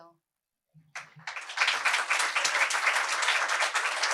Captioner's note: applause